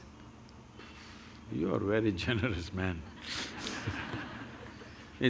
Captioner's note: laughter